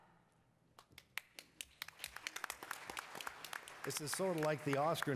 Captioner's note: attendees applauding